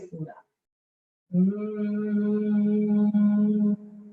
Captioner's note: humming